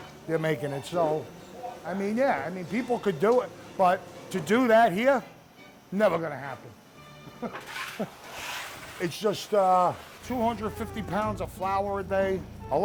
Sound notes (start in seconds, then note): 7.2 chuckles